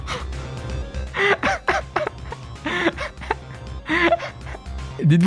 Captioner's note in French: se marre